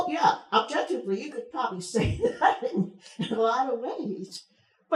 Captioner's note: chuckles